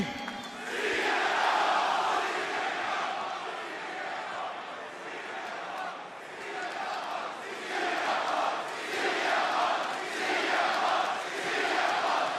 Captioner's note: crowd chants "cm punk"